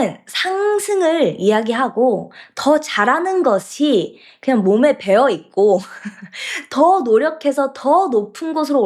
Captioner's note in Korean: 웃음